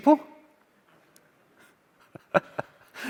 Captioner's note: chuckling